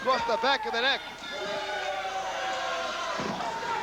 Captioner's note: crowd cheering